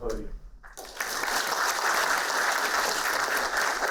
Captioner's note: applauding